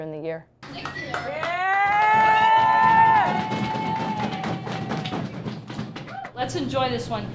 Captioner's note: cheering